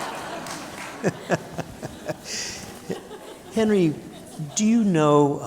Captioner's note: laughter; laughing